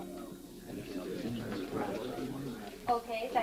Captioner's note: crowd chattering